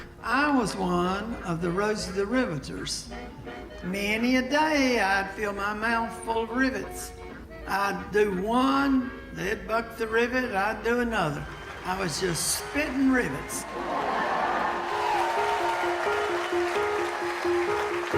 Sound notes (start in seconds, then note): 13.9 audience laughing and applauding; 14.2 light music